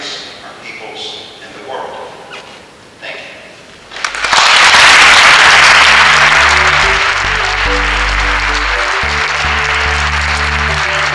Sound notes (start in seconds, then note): 3.9 applause